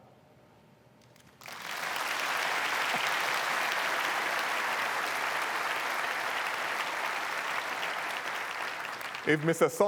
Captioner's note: applause